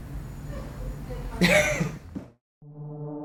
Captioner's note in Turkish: Gülüş